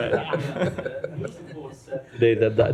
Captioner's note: laughter